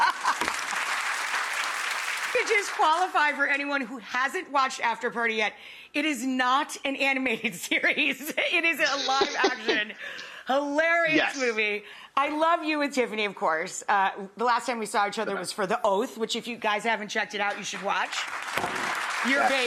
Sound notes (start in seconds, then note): 0.0 audience applause; 8.8 laughs; 17.5 audience applause